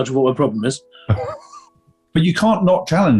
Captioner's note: chuckling